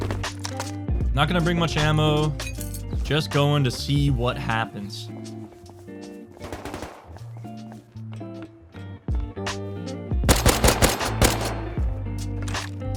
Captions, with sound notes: I'm not going to bring much ammo, just going to see what happens... *SMG gunfire*